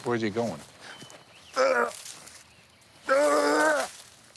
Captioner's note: throws up